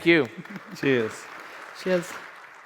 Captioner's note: audience applauds